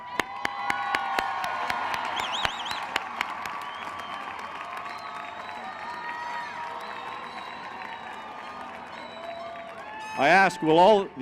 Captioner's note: cheering